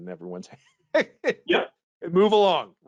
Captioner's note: laughing